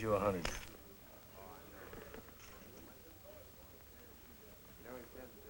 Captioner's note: chatter